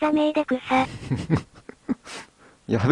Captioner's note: laughs